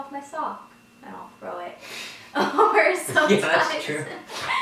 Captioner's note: laughs loudly